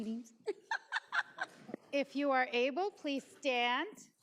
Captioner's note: laughs